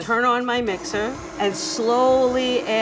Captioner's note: mixer whirring